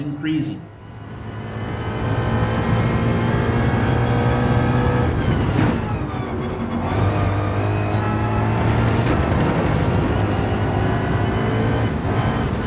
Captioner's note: engines revving, cars noises